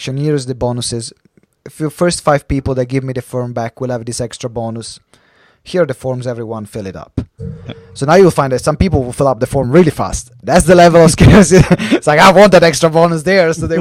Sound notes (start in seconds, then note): 11.6 laughs